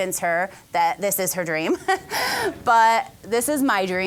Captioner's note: all laughing